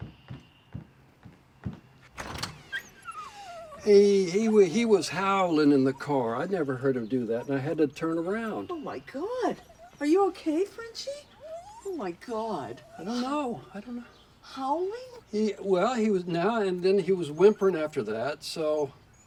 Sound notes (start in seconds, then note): 2.6 Frenchy whining